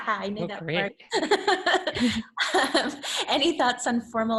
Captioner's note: laughs